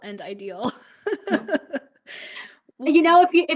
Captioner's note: laughs